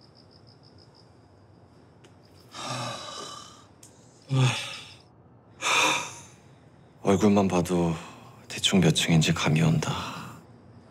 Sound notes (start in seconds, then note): 2.5 sigh